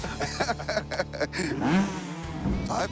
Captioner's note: laughter; engine revving